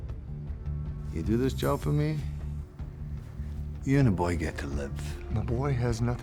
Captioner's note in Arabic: لهجة اسكتلندية